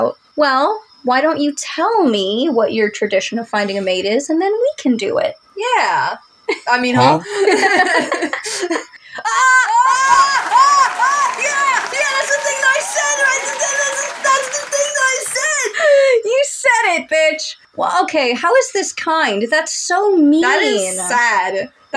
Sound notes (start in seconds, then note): 7.7 laugh; 9.2 excited Shouts; 9.7 applause; 13.7 excited Gibberish; 16.0 inhale